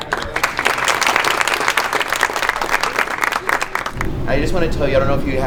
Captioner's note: crowd Cheering